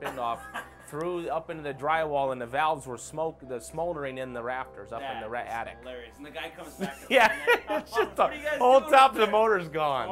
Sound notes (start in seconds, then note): 6.7 laughs